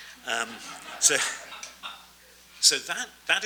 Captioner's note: audience laughs